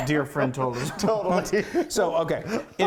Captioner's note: laughing